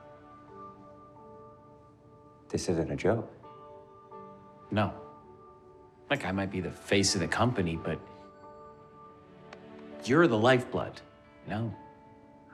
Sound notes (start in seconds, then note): none